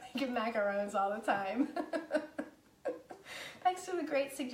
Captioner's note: laughing